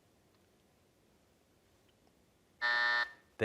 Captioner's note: buzzer